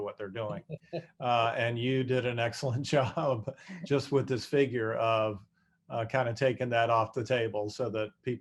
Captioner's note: laughter